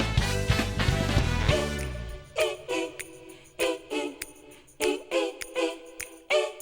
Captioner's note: fast music playing; repeating short "i" sound while snapping fingers